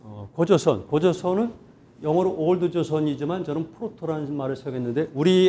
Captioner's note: speaking in Korean